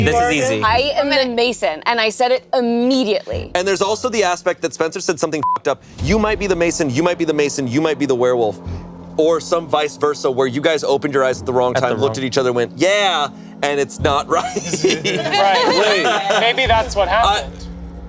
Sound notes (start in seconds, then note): 5.4 beep